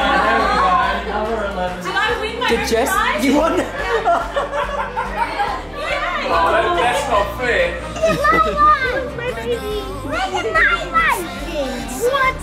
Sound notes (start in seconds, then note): 3.6 laughs